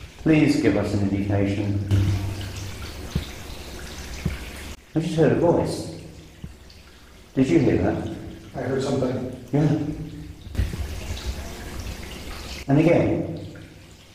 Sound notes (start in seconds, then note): 11.2 soft voice murmurs